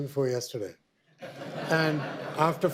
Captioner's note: audience laughter